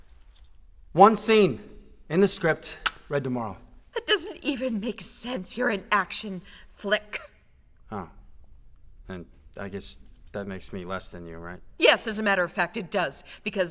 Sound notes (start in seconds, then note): none